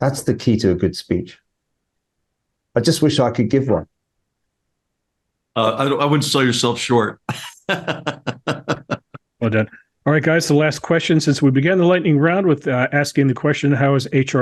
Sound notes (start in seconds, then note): 7.1 laugh